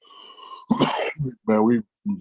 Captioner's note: coughing